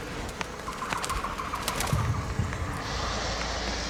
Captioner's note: bats squeaking